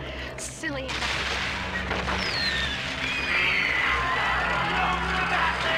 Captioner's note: sounds of explosions and screaming